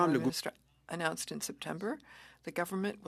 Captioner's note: speaking French